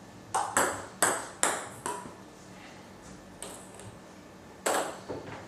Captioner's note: balls ping pong hitting continues